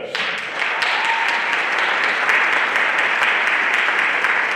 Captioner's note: everyone applauding